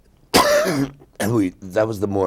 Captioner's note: coughing